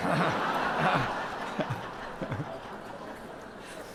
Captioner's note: audience laughs